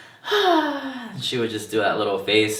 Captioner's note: sighs